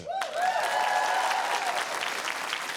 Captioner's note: cheering, applause